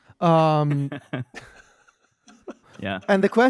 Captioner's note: laughs